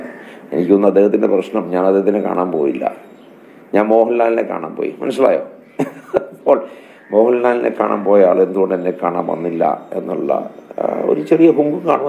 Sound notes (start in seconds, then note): 5.7 laughing